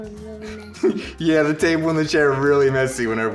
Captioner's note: laughs